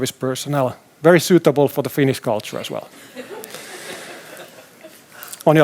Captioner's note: laughter